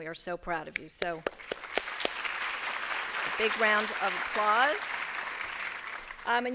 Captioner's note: applause